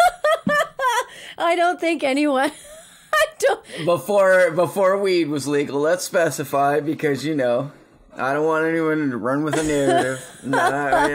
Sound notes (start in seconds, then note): 3.3 laughs; 9.5 laughing